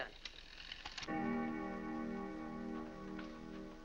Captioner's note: clock chimes